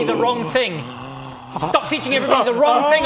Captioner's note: offended gasp